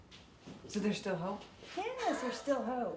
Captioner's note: laughs